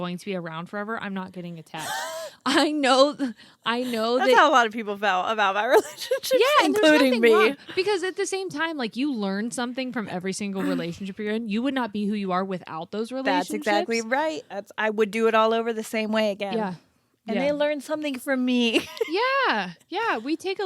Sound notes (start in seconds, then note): 1.8 both laughing; 5.8 laughs; 18.7 laughs